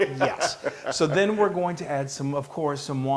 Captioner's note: laugh